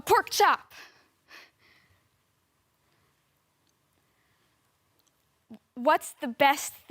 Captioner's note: soft breathing